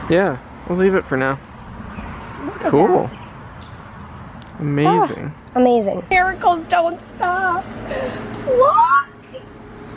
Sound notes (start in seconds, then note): 8.3 excited squeal